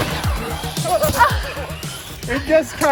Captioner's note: foam dragging; laughing